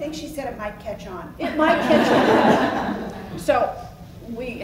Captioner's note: laughs